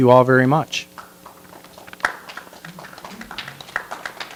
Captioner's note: light applause